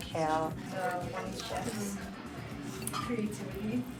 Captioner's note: crunching; background chatter